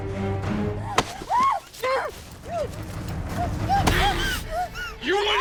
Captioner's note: Abigail screams